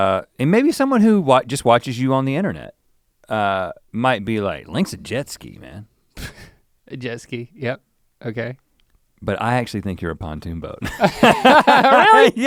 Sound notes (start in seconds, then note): 6.5 chuckles; 10.8 both laugh